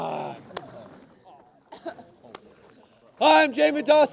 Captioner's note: laughter